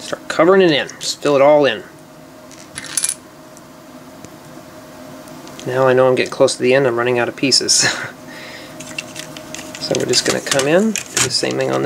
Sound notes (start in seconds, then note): 7.8 chuckles